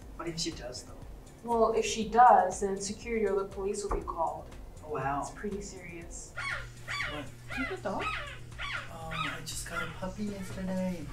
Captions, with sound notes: -What if she does though? -Well, if she does and then the security or the police will be called. -Oh wow! -Yeah, it's pretty serious. [dog crying] -What? -Do you have a dog? Ohhh I just got a puppy yesterday.